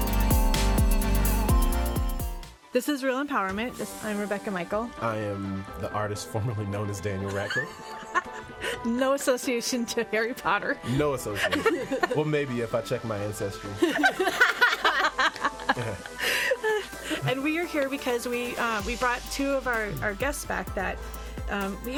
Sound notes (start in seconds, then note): 7.3 laughs; 13.8 all laughing